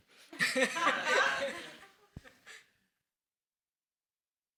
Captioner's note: everyone laughs